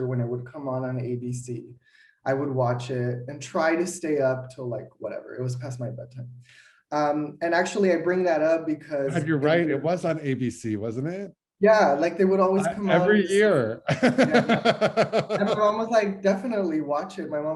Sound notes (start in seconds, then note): 13.8 laughter